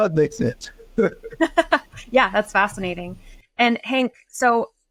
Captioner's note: laughs